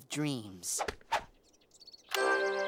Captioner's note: birds twitter